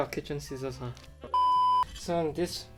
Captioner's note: sine tone chimes